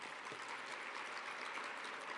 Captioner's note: applause